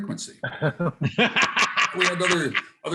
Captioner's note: laughter